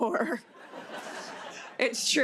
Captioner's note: laughter